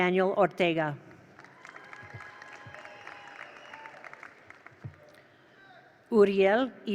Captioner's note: attendees applaud; attendees cheer